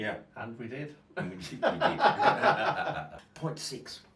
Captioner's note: men laugh